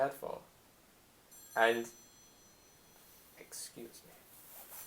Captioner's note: phone ringing